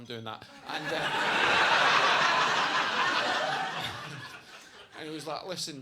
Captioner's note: audience laughing